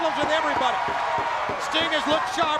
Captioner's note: Sherri thudding on ring